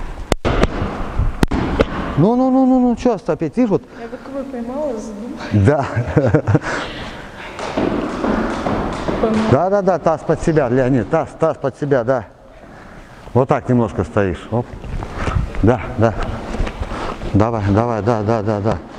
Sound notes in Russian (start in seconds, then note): 5.5 смеется